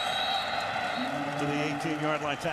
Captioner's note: whistle blows